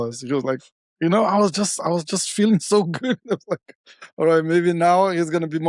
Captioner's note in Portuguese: risos